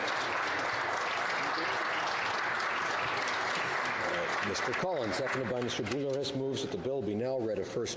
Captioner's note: some Applause